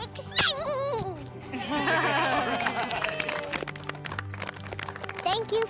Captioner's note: everyone applauds